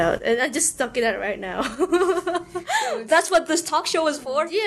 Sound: le giggle

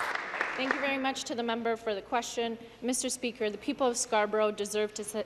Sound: applause

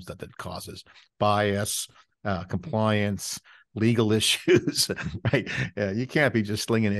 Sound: chuckles

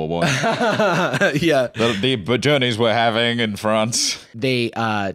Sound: laughs

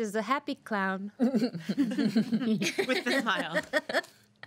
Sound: girls laughing

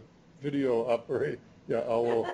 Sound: laughter

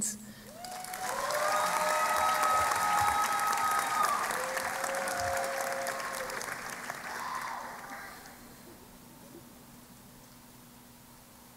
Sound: applause and Cheering

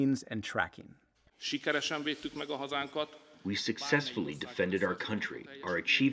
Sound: through translator

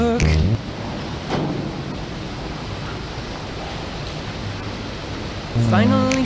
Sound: sounds of tunnel boring machine breaking through

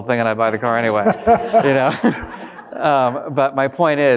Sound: all laughing

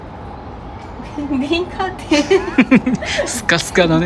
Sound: laughs

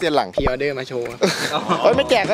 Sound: chuckles

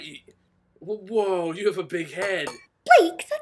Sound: clang clang

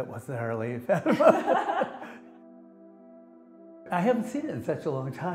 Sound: laughs

